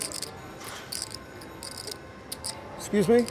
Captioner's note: soft clacking